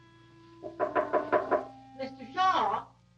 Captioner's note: door knocking